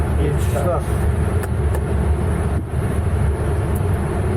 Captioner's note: clicking